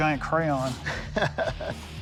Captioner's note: laughs